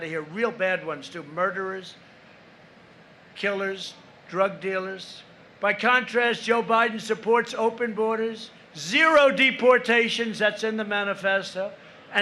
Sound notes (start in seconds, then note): none